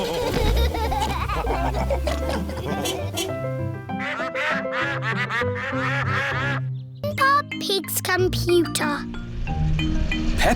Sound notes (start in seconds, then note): 0.0 all laugh; 2.6 toots horn; 3.4 ducks quacking